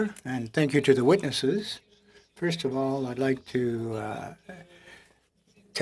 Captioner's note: speaking French